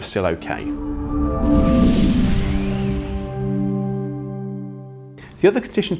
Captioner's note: gentle music; graphics whooshing